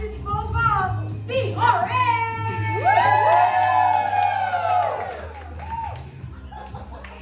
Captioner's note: cheers